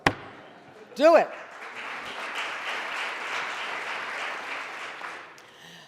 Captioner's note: audience applauding